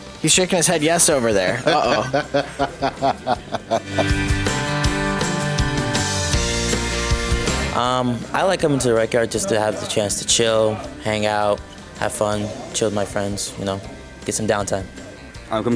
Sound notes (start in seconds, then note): 1.4 laughing